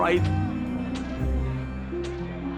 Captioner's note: flashbulbs popping